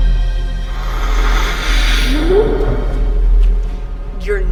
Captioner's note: Dr. Lee growls